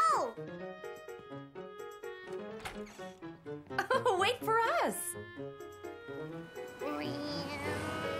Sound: Caillou's imitating a plane sound

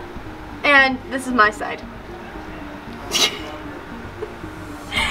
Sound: giggles

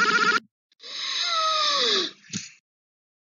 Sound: Ruby gasps so hard

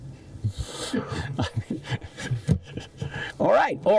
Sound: laughs

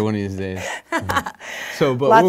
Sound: laughing

